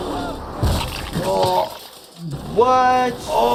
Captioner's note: Disco Bear yelling; car crashing; exclaiming